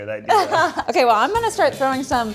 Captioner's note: laughs